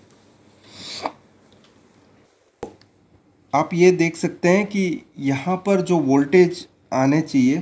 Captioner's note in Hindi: नाक से की जाने वाली आवाज़